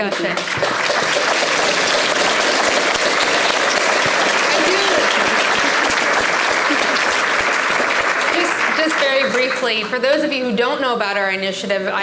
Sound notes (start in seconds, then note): 0.3 audience clapping; 4.1 laughs